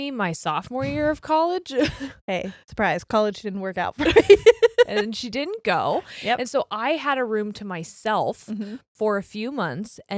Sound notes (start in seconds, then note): 4.0 giggles loudly